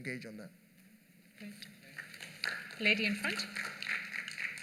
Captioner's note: applause